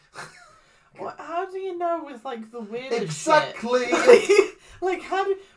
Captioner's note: laughs; laughs